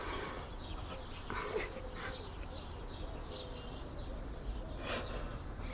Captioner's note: birds singing joyfully